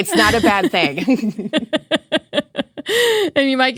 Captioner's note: laughing